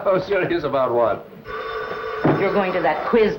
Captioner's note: phone rings